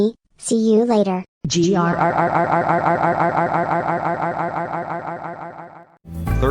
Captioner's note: echoing, growls